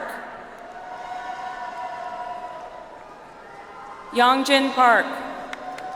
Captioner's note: audience applauds; audience applauds